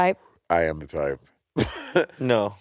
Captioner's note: Monét and Courtney laughing; Monét chuckling